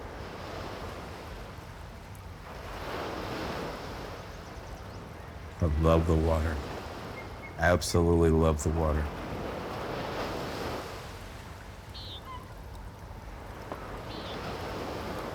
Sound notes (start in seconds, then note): 0.3 waves crash louder; 4.2 birdsong; 11.9 a frog croaks, seagulls squawk